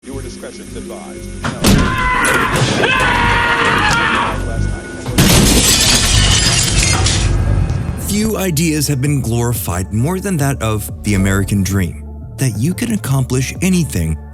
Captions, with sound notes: Viewer discretion is advised. [SCREAMING] [GLASS SHATTERING] Few ideas have been glorified more than that of the American dream, that you can accomplish anything